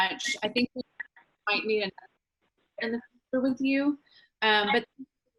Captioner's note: speaks faintly